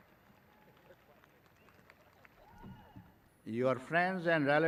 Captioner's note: graduates clapping